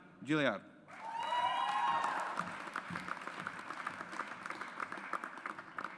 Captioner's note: audience applauds